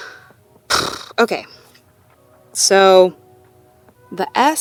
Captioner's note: sighs